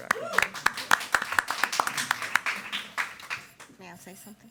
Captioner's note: attendees clapping